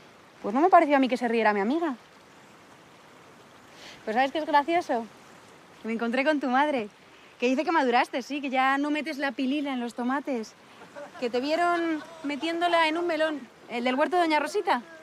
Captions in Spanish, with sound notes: Pues no me pareció a mí que se riera mi amiga. ¿Sabes qué es gracioso? Me encontré con tu madre, que dice que maduraste, sí, que ya no metes la pilila en los tomates, (Todos ríen) que te vieron metiéndola en un melón, en el huerto de doña Rosita.